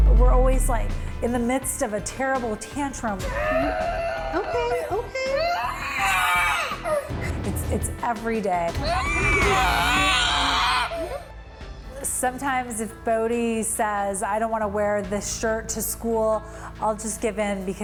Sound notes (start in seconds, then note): 5.3 body screaming; 8.8 body screaming